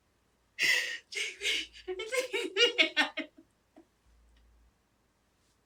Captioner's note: crying